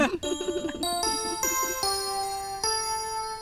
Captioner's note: laugh